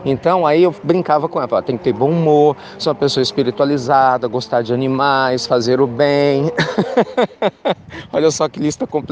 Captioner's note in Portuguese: Risos